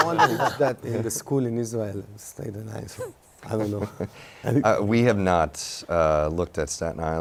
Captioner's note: laughter